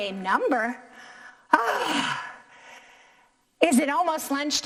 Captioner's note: sighs